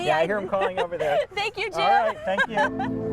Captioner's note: laughs